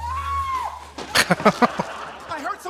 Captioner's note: laughing